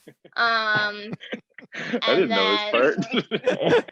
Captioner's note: chuckles